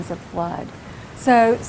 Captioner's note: water rushing